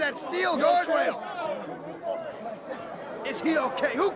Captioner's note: crowd chatter